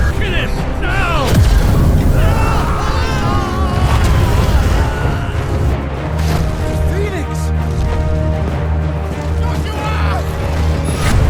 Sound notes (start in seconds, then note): 2.1 screaming